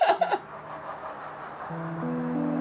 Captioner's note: laughs